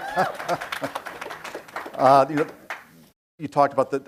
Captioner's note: audience cheering and applauding; laughs